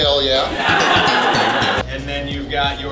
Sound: hahaha

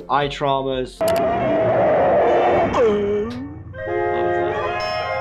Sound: mouse clicks

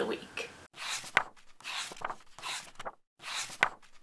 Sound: pages turning

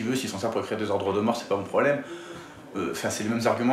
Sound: none

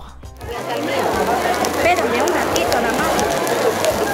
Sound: meat sizzling

